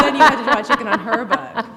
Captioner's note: laughter